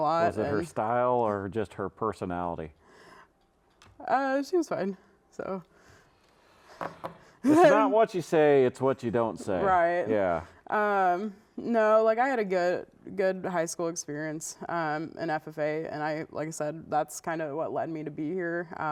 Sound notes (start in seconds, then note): 6.8 cards tapping